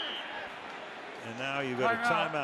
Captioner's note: whistles